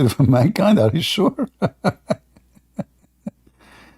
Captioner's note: Ketawa